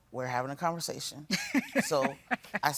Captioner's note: chuckles